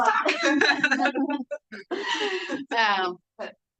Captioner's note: everyone laughs